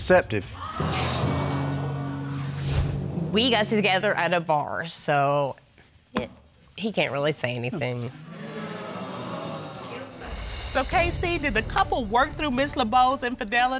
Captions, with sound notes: [audience gasps] We got together at a bar, so... he can't really say anything. [audience groans] So, KC, did the couple work through Ms. Lebeau's infidelity?